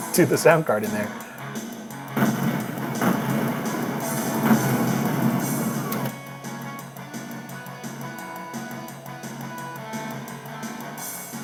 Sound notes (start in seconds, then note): 2.1 computer logos booming; 5.7 energetic rock music